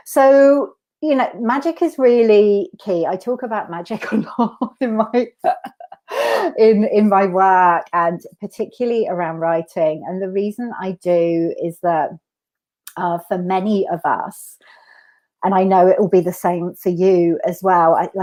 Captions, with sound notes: So magic is really key; I talk about magic a lot. (laughs) In my work and particularly around writing. And the reason I do is that for many of us, and I know it'll be the same for you as well.